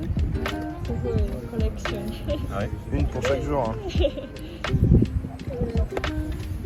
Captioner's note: laughs